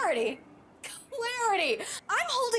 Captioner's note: scoffs